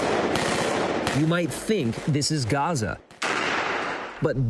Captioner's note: gunfire